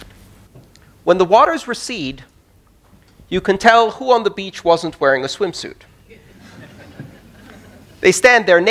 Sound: laughter

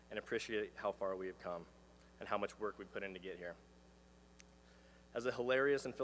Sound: none

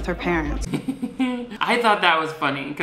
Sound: laughs

